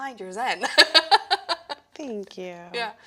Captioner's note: laughing